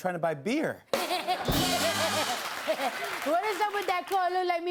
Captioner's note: laughter and applause